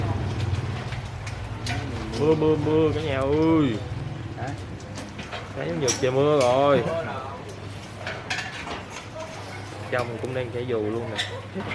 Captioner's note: raining